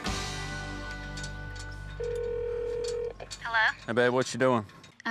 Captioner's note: phone ringing